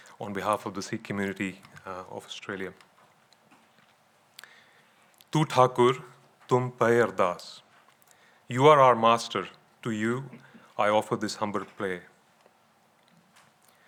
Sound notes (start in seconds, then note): 5.2 speaking in foreign language